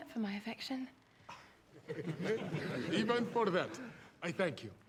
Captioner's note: laughter